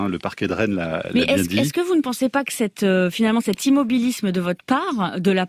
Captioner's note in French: Voix journaliste